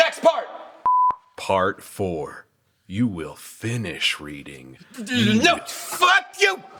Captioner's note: beep